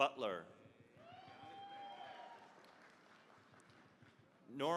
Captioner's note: cheering, applause